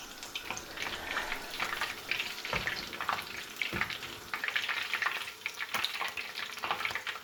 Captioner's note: sizzlin